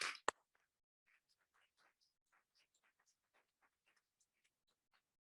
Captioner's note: audience applauding